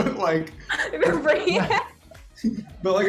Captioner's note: laughs